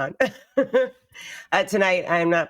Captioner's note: giggling